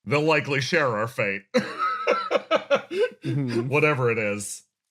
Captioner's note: laugh